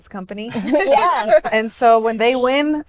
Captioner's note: laughs